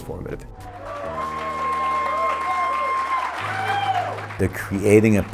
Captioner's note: applause